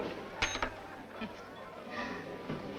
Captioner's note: coin clinks